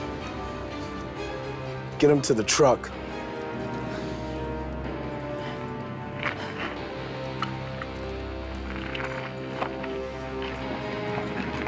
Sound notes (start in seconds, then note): none